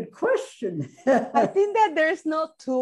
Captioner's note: laughs